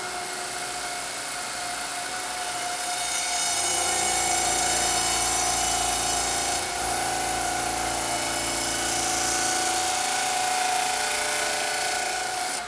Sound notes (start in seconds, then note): 3.5 CNC machine rumbling